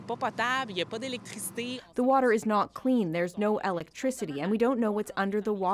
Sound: speaking French

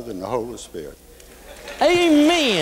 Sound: applause

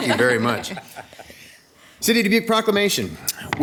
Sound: people laughing

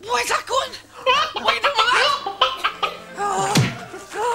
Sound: Baby Einstein chicken sound effect plays

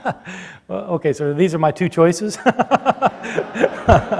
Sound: Bart laughs; laughing

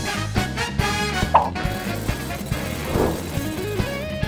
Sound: engines idling

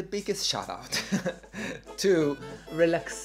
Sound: laughs

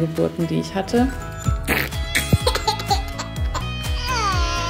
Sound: funny noise

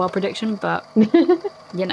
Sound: laughs

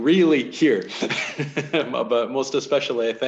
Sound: laughs

